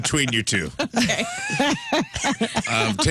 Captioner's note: laughter